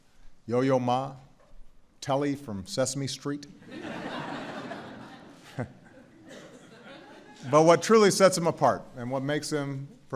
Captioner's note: laughter